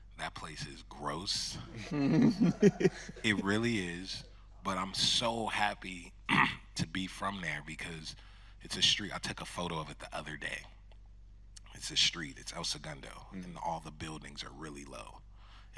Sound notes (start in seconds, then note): 2.0 audience laughing